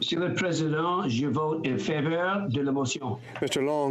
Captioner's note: speaking FRENCH